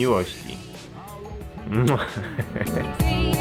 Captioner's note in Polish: śmiech